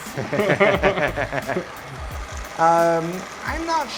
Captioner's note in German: lachen